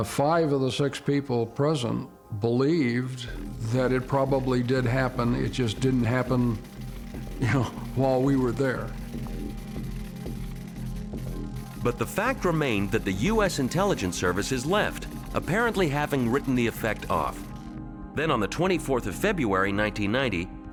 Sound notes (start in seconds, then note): 9.0 electricity buzzing